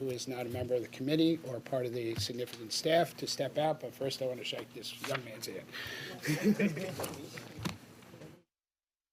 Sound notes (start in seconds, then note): 6.2 chuckles